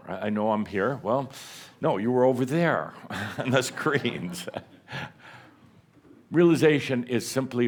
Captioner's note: chuckles